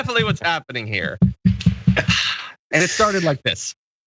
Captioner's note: laugh